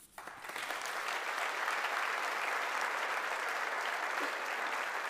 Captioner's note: audience applauding